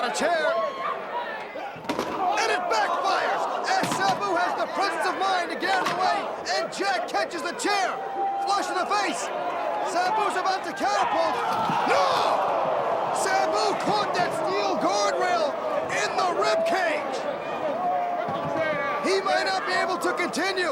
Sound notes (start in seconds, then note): 0.0 crowd chatter; 13.8 crowd cheering; 17.8 crowd chatter